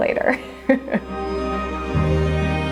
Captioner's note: chuckles; light music